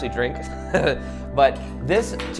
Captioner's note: chuckles